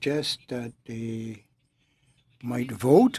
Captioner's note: speaking Alternate Language